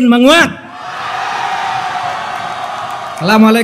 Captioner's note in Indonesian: tepuk tangan